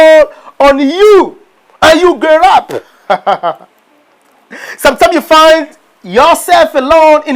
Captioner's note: laughing